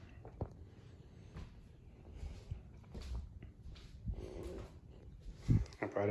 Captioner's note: footsteps